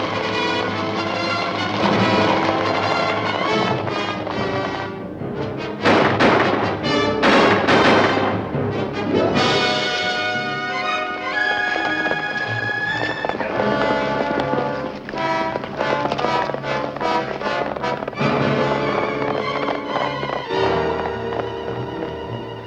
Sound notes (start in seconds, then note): 0.2 suspenseful music; 5.8 guns firing